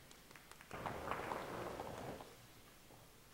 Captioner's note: audience clapping